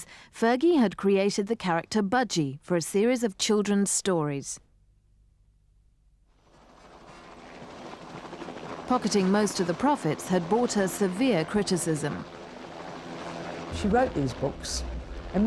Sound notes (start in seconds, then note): 6.4 helicopter whirring; 12.2 whirring continues